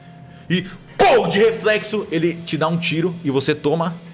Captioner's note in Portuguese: pow